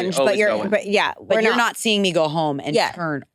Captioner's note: participants chattering